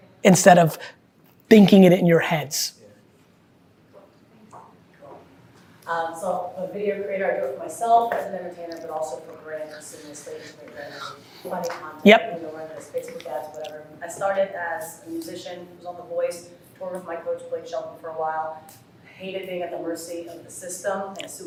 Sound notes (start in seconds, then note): 10.0 faintly speaking